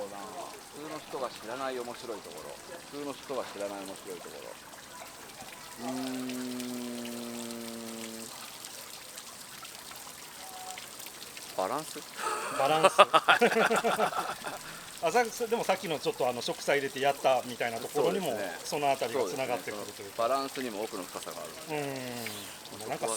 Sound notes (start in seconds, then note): 14.4 laughs